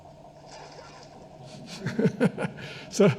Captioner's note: splashing; all laughing